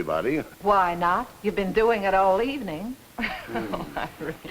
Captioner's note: laughs